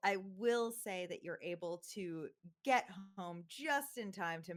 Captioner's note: none